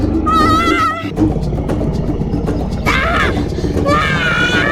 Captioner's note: dinosaur growling continues; Mika screaming continues